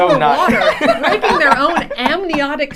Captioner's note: laughing